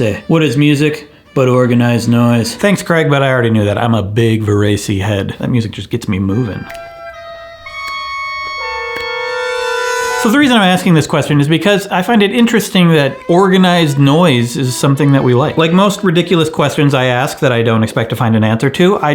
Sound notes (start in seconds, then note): 6.7 discordant music; 6.7 snaps fingers